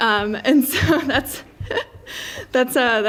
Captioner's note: laughs